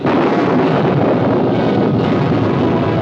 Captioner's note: thunder